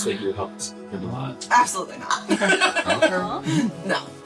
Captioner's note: laughs